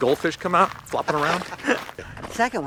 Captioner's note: laughs